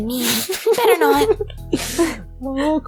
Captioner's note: laughs